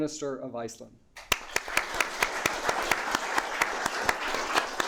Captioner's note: audience clapping